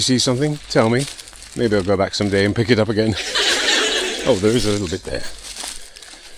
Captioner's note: laughter